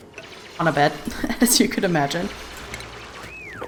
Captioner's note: laughs